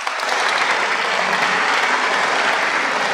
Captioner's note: applause